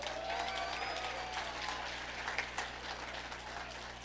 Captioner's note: audience applauding